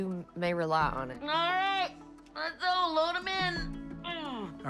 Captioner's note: groans